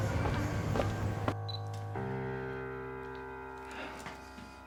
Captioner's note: camera beeps